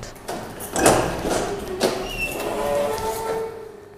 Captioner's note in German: Lautes Türquietschen